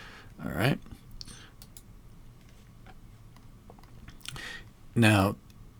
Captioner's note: silence